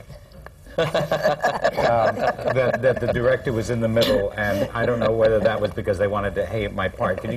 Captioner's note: laughter